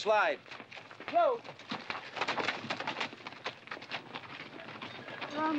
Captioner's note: horses and bodies bustling